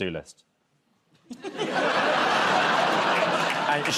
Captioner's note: laughter